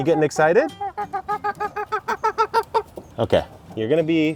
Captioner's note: chicken clucks